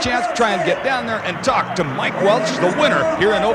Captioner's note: voiceover